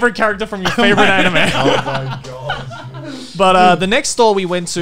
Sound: heartedly laughing

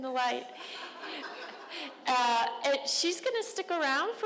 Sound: crowd laughing

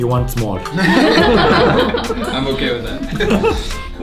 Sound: laughter

